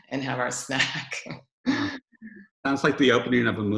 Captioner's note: laughs